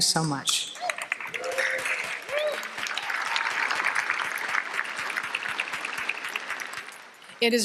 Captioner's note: applause